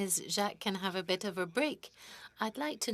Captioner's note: speaking French